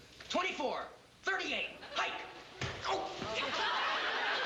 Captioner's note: laughter